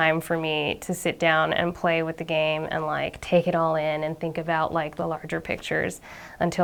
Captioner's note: none